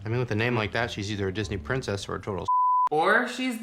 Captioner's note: beep